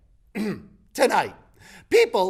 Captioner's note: clears throat